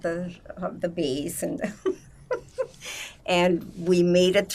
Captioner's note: laughing